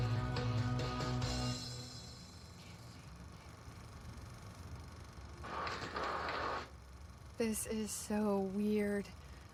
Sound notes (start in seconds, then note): 1.7 whispering; 5.4 static